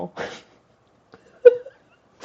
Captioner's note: laugh